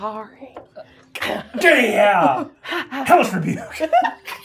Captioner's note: both grunting